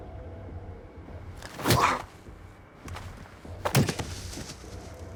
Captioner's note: thudding